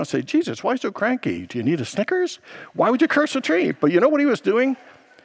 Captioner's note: congregants laughs